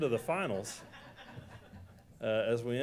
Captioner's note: laughter